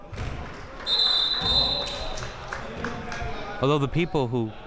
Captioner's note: whistle blows